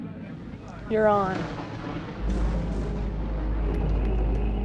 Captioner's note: thunder claps